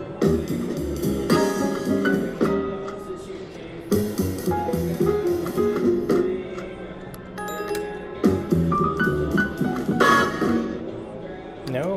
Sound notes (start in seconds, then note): 7.4 bell dings; 8.1 playful jazz music